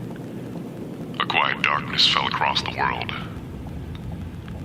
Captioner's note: voice lowering in pitch